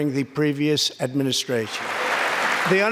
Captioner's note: applause